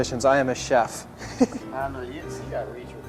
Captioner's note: laughs at own joke